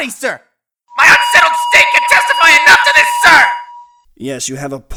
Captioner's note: megaphone blaring